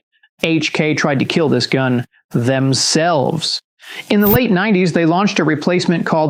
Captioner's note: whoosh